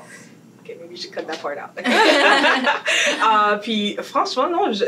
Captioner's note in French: rires